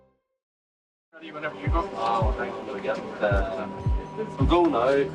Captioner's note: background chatter